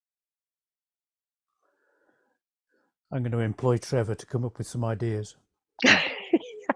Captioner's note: laughs